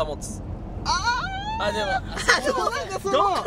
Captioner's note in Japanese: 高音